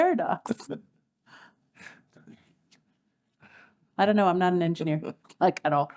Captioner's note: laugh